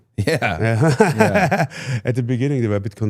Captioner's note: Gunther laughs